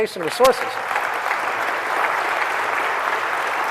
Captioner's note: applause